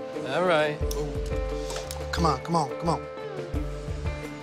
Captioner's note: inhales